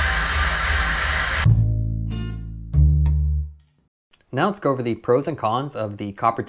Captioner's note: tire Noise